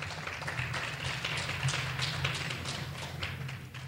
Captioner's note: clapping